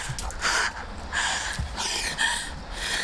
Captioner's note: both panting